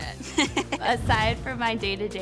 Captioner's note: laughs